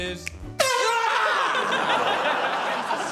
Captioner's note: air horn blares